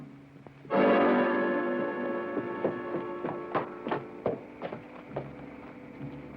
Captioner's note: suspenseful music; hooves clopping